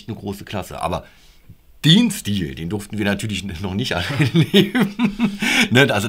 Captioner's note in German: lachen